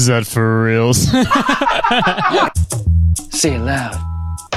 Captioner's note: pair laughs